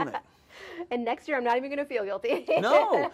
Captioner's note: laughs